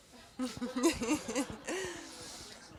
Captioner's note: laugh